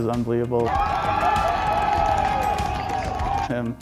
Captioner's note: audience cheering